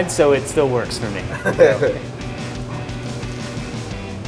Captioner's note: laughs